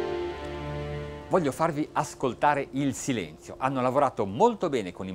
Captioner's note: speaking in foreign language